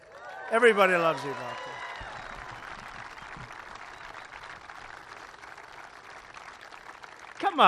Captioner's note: applause